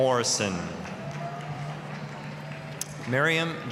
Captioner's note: applause